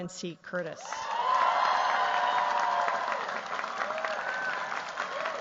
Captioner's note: cheers, applause